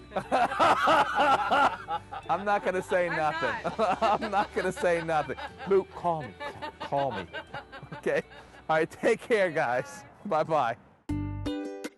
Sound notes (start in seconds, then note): 2.6 laughing